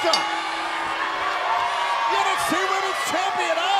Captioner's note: bell ringing